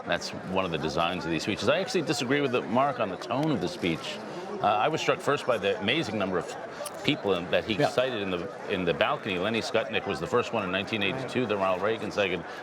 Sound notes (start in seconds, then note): none